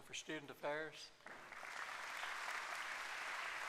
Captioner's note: applause